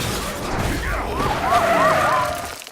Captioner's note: siren blaring